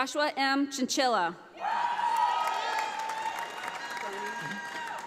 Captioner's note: audience applauding